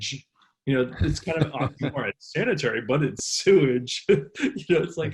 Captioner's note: laughs